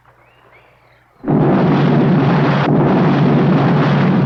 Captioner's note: explosion